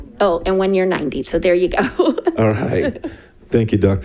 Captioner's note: laughs